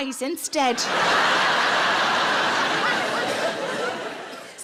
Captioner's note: audience laughs